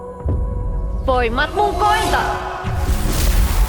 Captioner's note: shouts in Muinein language